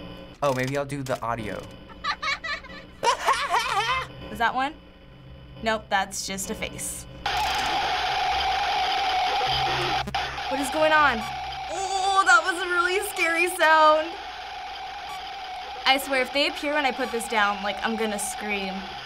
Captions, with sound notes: Oh, maybe I'll do the audio. (audio: child giggles) (mocking giggle) Is that one? Nope, that's just a face. (in game: screeching, buzzing noise) What is going on? Ooh, that was a really scary sound. I swear, if they appear when I put this down, I'm gonna scream.